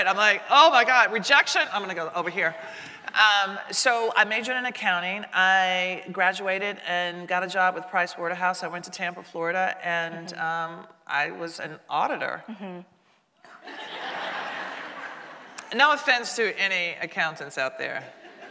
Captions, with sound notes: I'm like, oh my God, rejection, I'm going to go over here. So I majored in accounting, I graduated and got a job with Price Waterhouse. I went to Tampa, Florida and I was an auditor. (audience laughing) No offense to any accountants out there.